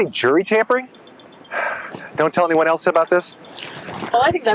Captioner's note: sighs